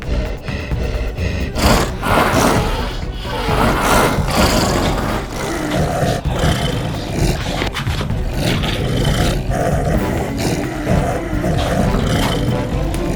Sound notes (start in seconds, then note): 1.8 creature growling; 1.8 suspenseful music